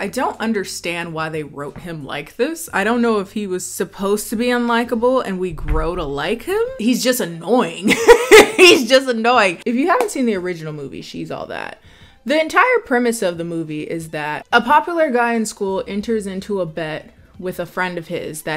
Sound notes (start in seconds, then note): 7.8 laughs